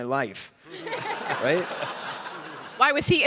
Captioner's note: audience laughing